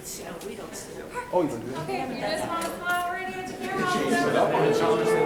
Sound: people chattering loudly

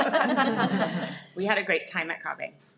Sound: people laugh

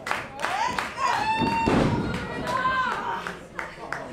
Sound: crowd cheering

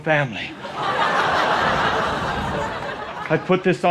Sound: audience laughter

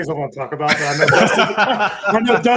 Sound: laugh

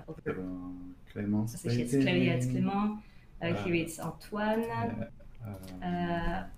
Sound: speaking French

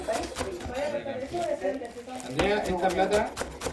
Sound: chatter

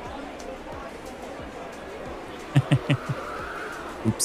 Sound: laughs

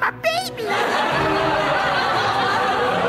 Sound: loud Laughter

